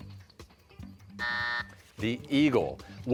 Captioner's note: buzzer